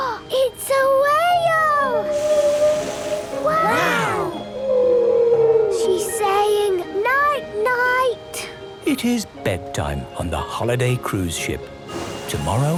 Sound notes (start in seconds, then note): 0.2 gasps; 2.0 whale calling